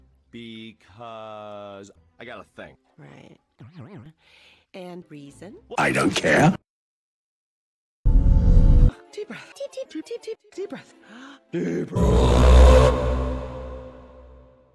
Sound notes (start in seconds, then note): 11.0 calm exhale; 11.4 inhale